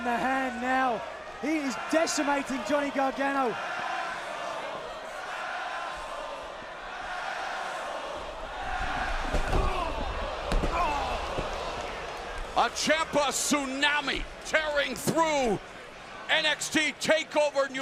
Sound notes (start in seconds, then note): 0.0 crowd chatter; 3.7 crowd chatter; 7.2 crowd cheering